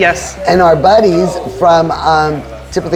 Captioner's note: staff murmuring